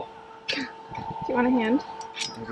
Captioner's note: chuckles